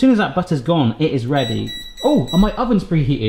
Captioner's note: oven beeps